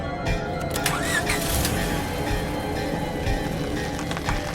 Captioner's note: engine revving